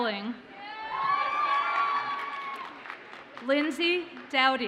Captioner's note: audience cheers and applauds